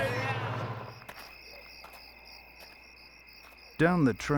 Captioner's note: footsteps